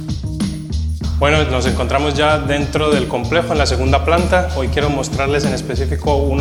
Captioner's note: speaking in foreign language